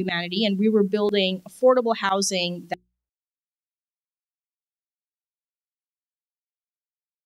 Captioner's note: audio out